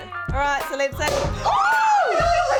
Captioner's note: cork pops; women scream